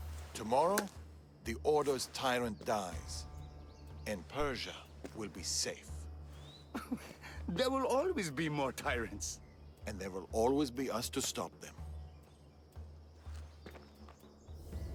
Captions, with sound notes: Tomorrow, the Order’s tyrant dies... ...and Persia.. will be safe. (laugh) There will always be more tyrants! And there will always be us to stop them.